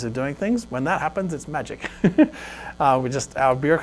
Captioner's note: laughs